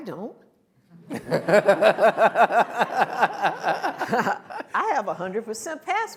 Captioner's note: and audience laughs